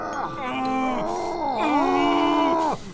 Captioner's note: growls